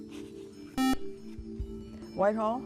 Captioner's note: beep